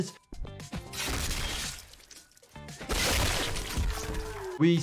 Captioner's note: gunshot rings